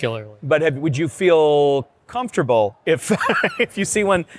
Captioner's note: laughs